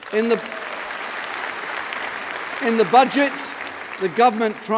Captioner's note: applause